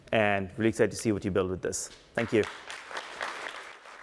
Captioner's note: applause